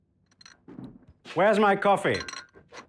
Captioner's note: platter clinking